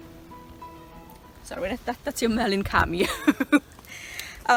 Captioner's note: laughs